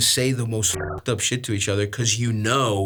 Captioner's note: beeps